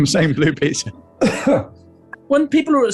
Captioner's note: coughs